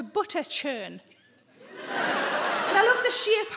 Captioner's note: audience laughs